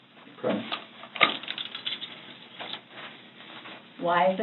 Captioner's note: handcuffs rattle